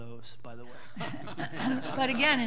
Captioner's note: all laughing